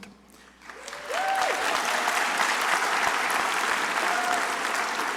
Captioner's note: crowd applauding